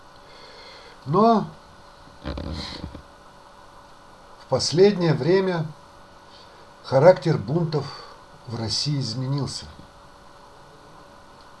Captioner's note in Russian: фыркает